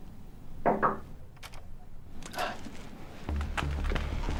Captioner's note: secretary taps door; tense music plays